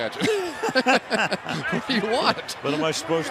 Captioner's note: laughs